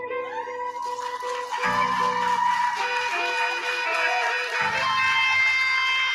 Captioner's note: cheering